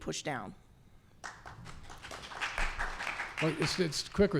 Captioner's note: applause